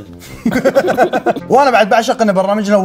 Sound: laughing

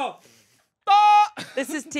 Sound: yelling

